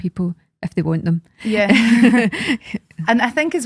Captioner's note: both laugh